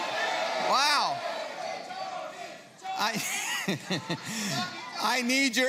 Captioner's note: laughs